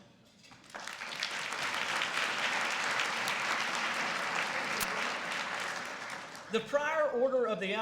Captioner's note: applause